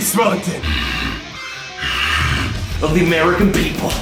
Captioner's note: growling